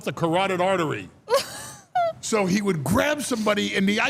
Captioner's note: laughs